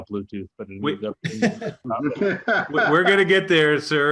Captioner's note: both laughs